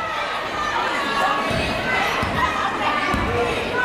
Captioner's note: yelling